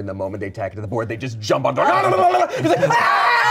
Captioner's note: yells; screams